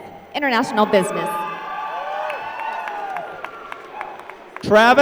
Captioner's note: applause